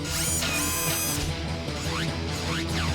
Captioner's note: mechanical whir